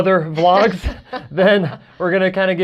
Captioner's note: laughs